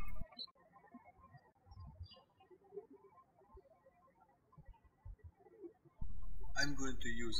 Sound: birds chirping

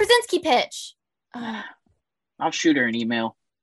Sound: sighs

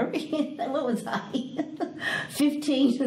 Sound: laughs

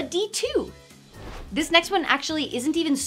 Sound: air whooshing

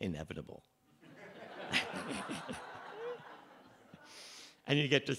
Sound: laughter

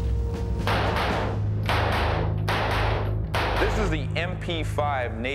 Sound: gun fires

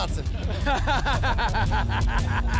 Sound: laughter

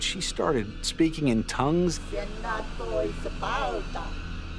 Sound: non-english speech

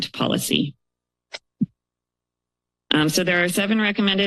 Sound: pause

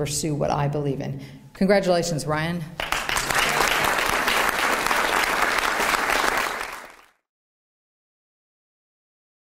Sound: applause

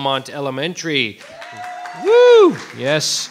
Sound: audience cheering; audience applauding

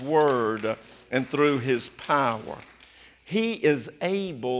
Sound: applause

